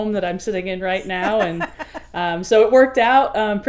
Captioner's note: woman laughing